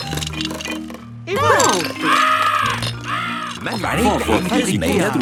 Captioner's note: seagulls cries